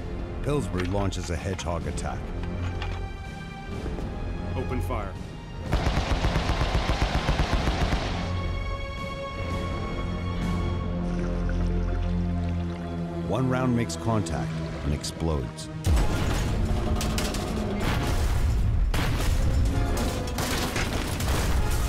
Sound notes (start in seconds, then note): 15.9 crashing noises